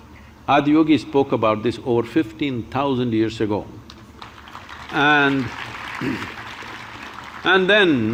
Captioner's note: applause